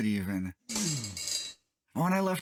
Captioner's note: chair creaking